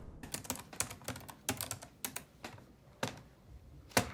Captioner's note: typing